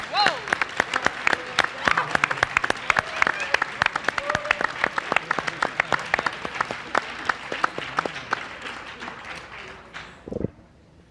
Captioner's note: applause